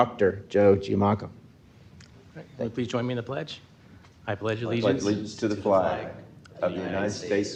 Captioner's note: in Unison